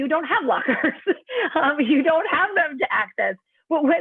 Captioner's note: laughter